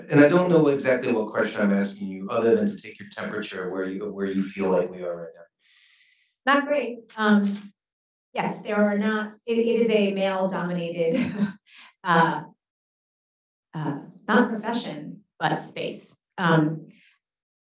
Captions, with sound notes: And I don't know exactly what question I'm asking you other than to take your temperature, where you feel like we are right now. - Not great. Yes, there are not... It is a male-dominated (laughs) not profession but space,